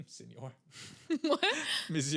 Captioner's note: laughing